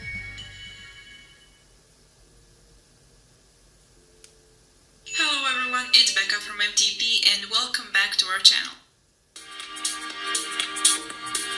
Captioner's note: sound from the phone